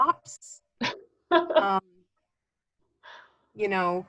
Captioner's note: laughing